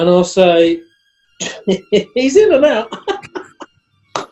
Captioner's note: chuckling